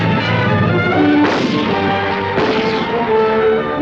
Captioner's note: gunshots